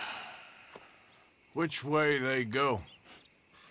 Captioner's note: sighs